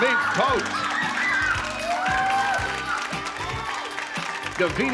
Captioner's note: screams